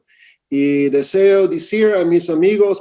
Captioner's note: speaking spanish